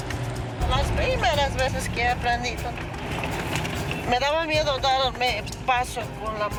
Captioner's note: speaking in foreign language